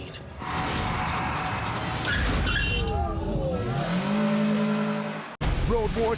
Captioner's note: car squeals and honks